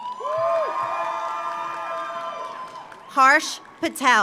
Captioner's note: audience cheers; audience applauds